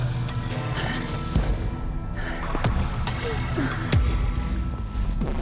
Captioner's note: frantic breathing